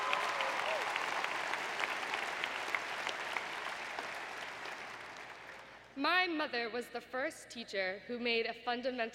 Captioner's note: applause